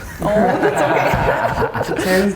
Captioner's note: laughing